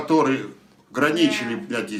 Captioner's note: foreign language